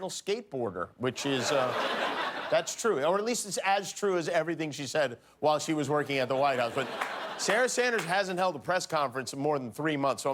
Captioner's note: cheers and applause